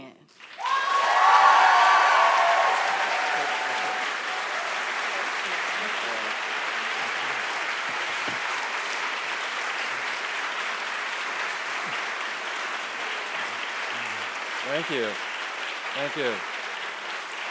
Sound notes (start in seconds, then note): 0.2 applause; 4.9 cheering and applause